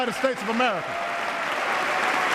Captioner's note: applause